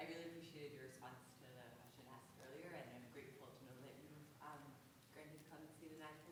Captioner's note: voice muffled